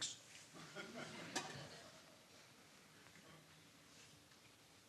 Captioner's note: audience chuckling